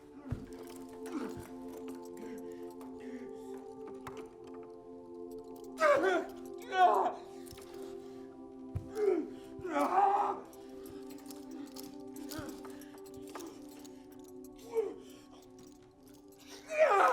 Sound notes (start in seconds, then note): 8.8 grunting